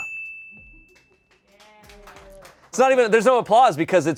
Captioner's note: bell dings; audience cheering